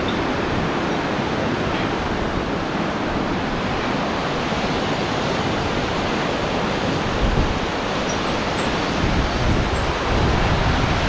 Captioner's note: river flowing